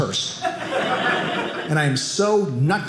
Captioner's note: audience laughing